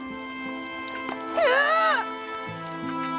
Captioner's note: sobs